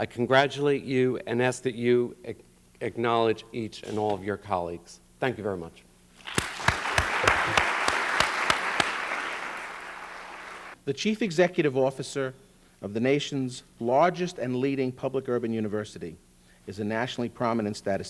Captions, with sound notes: I congratulate you and ask that you acknowledge each and all of your colleagues. Thank you very much. [APPLAUSE] The Chief Executive Officer of the nation's largest and leading public urban university is a nationally prominent